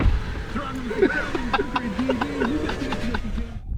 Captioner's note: laughing